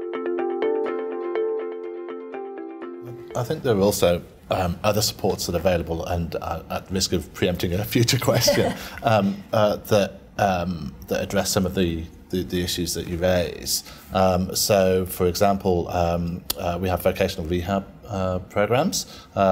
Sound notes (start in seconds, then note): 8.2 laughter